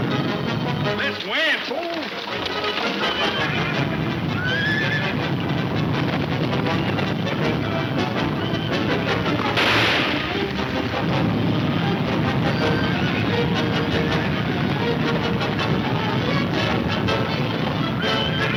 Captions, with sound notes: - This way, fool. (stampede rumbling) (gunshot banging)